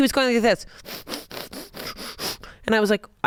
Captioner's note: breathing heavily